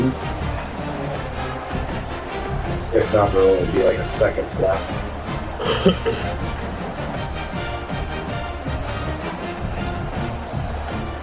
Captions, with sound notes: [Crowd Noises] If not, there will be like a second left. [Crowd Noises]